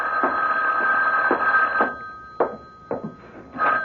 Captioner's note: phone rings